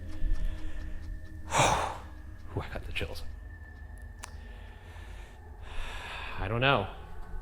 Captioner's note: deeply exhales; loudly breathing